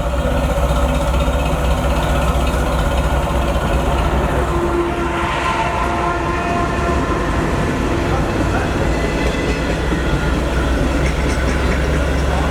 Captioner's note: 1502 engine running. Sound of NS train passing